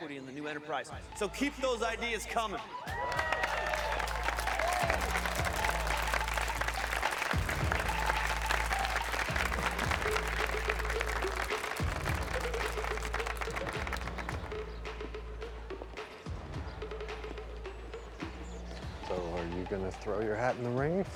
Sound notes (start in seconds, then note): 2.2 cheering and applause